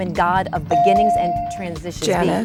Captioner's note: bell dinging